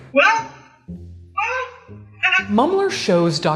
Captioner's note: laughs